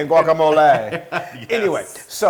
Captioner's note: laugh